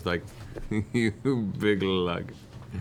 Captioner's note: chuckling